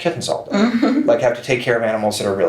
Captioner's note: chuckles